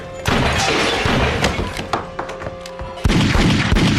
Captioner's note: gun shoots